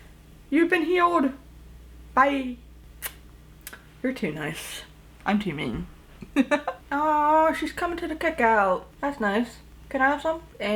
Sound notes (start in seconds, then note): 3.6 tsk; 6.2 chuckles